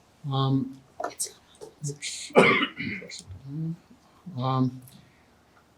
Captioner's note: audience member whispering